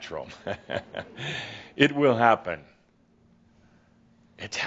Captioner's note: Adamus chuckles